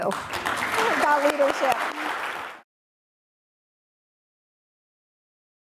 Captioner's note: audience applauding